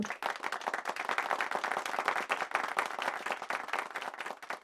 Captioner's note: people clapping